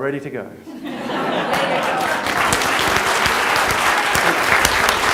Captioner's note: laughter, applause